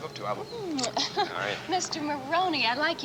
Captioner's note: chuckles